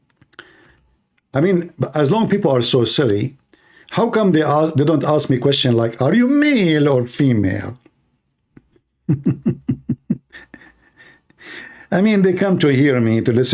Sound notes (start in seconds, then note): 9.0 Ketawa